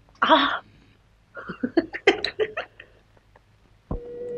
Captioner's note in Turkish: Kahkahalar